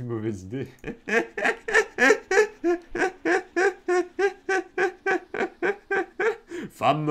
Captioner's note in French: Rires